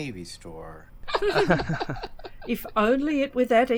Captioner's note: laughter